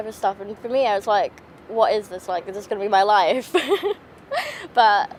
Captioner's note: laughing